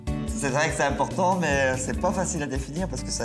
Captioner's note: speaks french